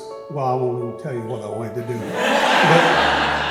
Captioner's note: audience laughs